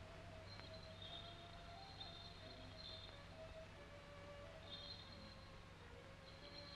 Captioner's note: serene music; bells jingling